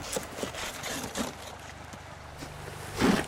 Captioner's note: digging sounds